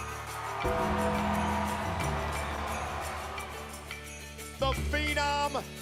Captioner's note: audience cheers and applauds